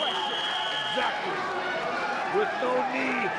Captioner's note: whistling